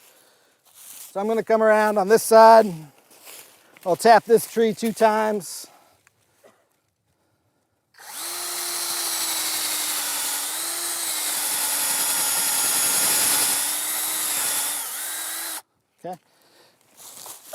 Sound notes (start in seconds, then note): 7.9 drilling